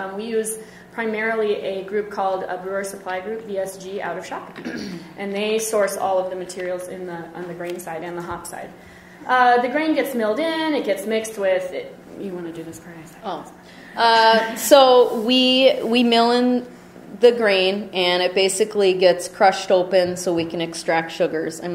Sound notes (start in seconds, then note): 15.4 voiceover